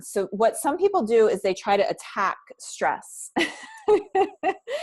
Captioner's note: laughs